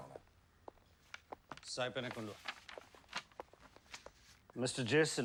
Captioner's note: speaking foreign language